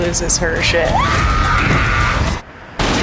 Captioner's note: screaming